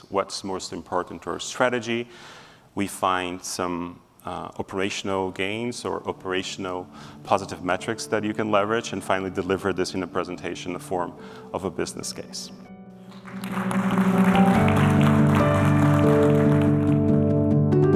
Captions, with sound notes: What's most important to your strategy?" We find some operational gains or operational positive metrics that you can leverage, and finally deliver this in a presentation in the form of a business case. (applause) (concluding music)